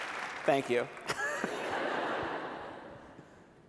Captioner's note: applause; laughter